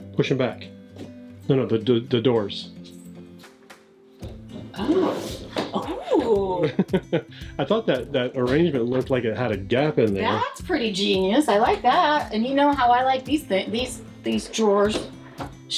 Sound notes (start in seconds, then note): 6.5 laughs